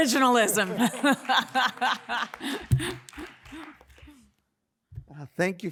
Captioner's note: audience laughs and claps